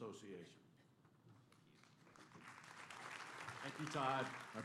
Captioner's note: applause